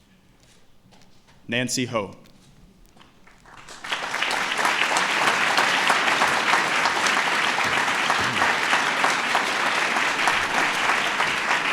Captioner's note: applause